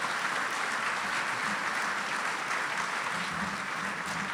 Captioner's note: audience applause